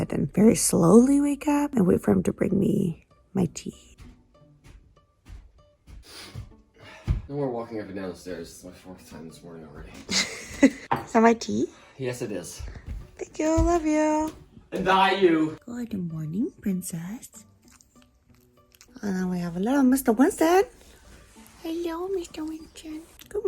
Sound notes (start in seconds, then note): 6.0 breaths heavily; 10.0 laughs